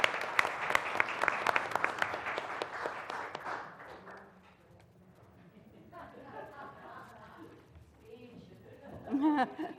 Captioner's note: laugh